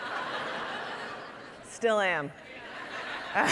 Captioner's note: audience laughing